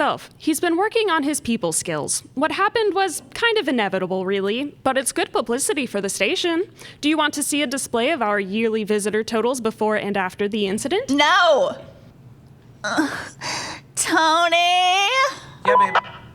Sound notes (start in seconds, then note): 12.9 sigh